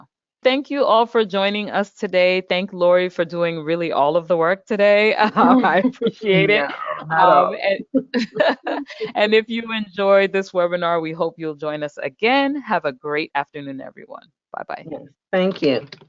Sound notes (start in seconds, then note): 7.8 presenters laugh